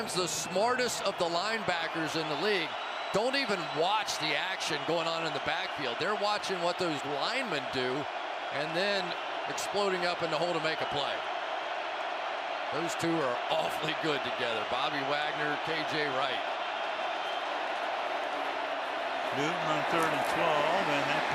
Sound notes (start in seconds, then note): 11.9 cheering